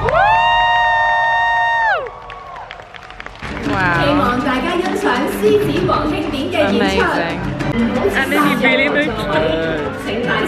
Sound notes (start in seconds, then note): 0.0 crowd cheers and claps; 4.6 presenter speaks foreign language